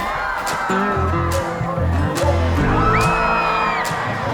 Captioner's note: cheering